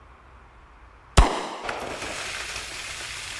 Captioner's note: gunshot crackling; water splashing